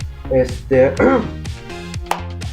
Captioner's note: clears troat again